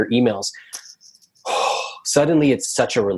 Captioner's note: sighs